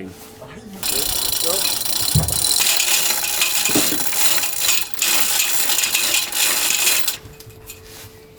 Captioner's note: metalic sounds